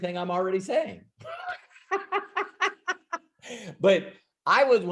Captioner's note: laughing